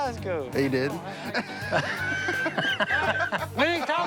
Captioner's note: laughter